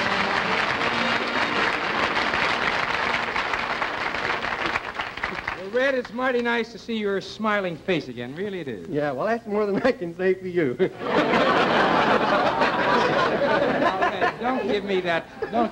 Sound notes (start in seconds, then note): 0.0 applause; 8.3 laughter